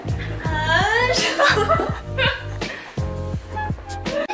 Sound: hahahahaha

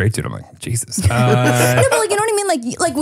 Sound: laughs

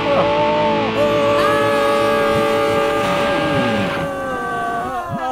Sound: intermittent screaming; persistent screaming; screaming fades

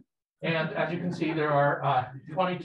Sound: people laughing

